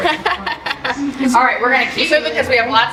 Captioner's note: laughter